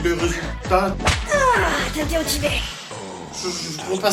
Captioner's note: whip